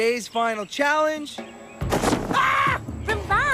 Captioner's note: OWEN screams